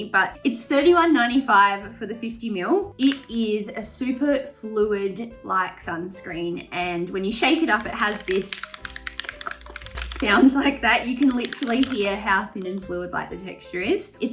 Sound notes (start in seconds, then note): 7.6 sunscreen rattling